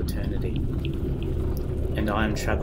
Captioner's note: gradually louder whooshing